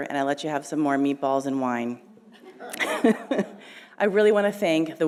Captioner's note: laughing